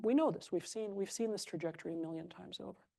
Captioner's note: none